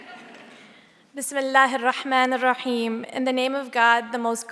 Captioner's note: speaking native language